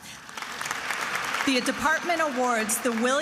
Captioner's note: attendees applauding